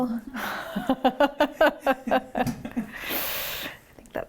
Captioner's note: laughs